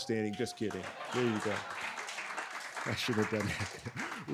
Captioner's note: audience laughs